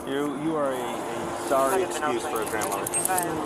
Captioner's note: radio chatter